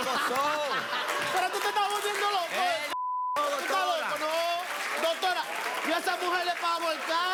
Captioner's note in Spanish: Risas